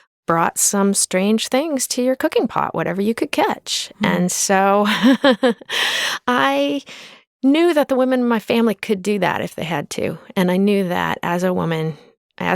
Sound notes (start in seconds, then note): 4.8 chuckles